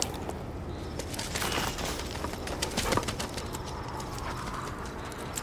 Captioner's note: dog running